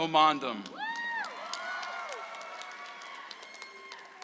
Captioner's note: audience applauds